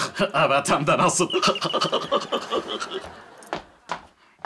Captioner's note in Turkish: Kapı zili sesi